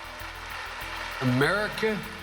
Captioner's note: clapping